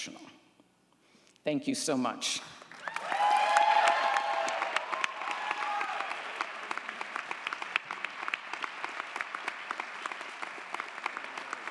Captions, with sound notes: Thank you so much. (audience applauds & cheers)